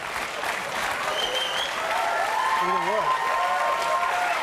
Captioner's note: cheers and applause